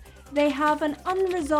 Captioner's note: keyboard typing